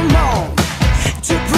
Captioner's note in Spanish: respiración